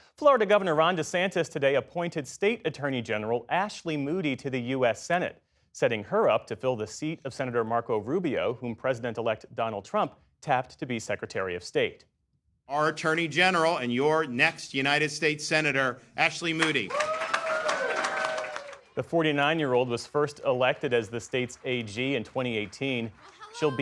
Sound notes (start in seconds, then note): 18.9 cheering